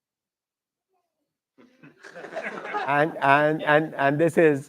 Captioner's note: laughter